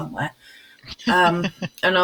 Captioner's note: laughs